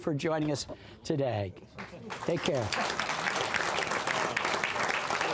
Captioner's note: applause